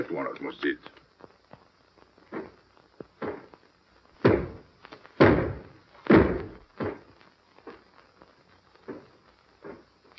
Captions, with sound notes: that one almost did. [knocking]